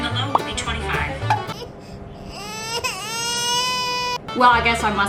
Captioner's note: baby cry